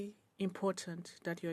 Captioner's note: speaking in French